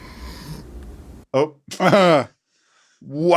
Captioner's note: laughs